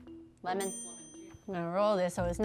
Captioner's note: bell dinging